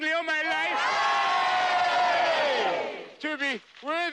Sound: all cheer

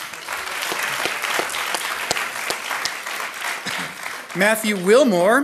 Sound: audience applauding

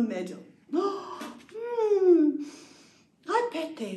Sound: gasp

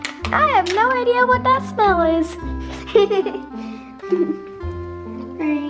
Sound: laughs

